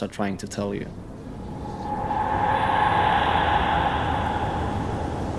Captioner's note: ghostly soundscape